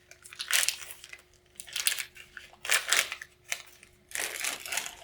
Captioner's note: package opening